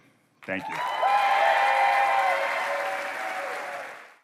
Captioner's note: applause